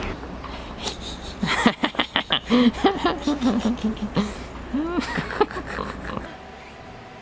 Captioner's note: cackling ensues